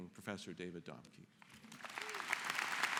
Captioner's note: applause